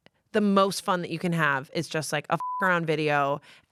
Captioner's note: beep